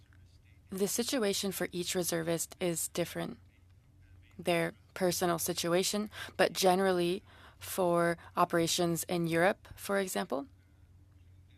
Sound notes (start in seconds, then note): 3.9 speaking French